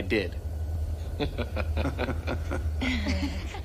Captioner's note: both laughing